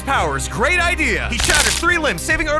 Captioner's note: bones crunching